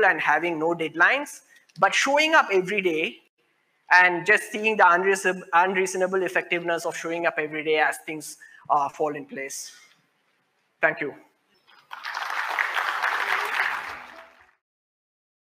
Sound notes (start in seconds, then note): 11.7 applause